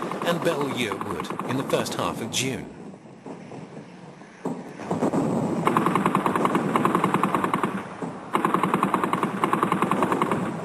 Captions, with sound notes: and Belleau Wood in the first half of June. [heavy artillery booming] [guns blasting]